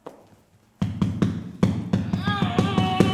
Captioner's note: hammering ensues